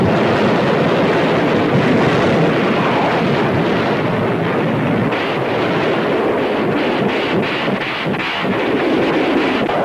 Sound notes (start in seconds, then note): 1.8 explosion booming; 3.2 weapons firing